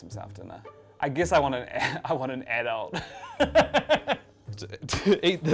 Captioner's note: laughs